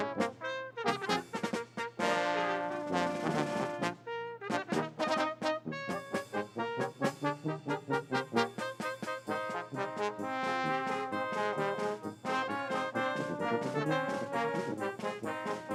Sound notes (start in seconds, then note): none